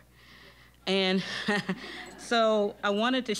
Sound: laughing

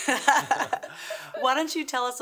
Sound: laughs

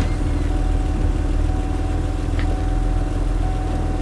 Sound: car beeping

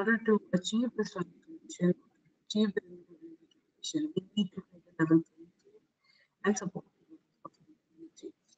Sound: audio static

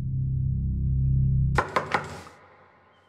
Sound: knocking

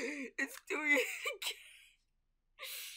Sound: wheeze

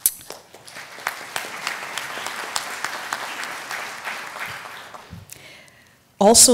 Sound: applause

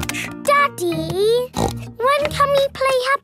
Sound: snorts

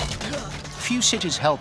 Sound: Athenian groans

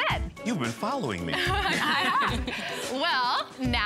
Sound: laughing

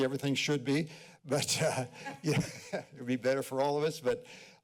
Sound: laughter

